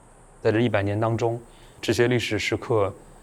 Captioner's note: Mandarin